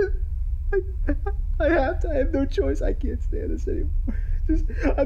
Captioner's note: sobbing